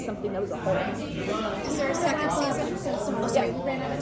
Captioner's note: chattering